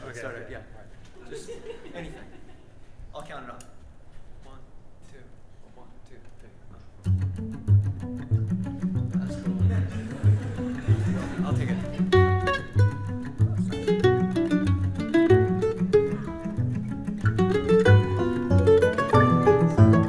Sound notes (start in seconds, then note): 9.3 audience laughs; 12.4 mandolin playing; 17.3 banjo playing